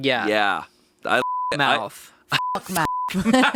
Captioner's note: beeping; laughing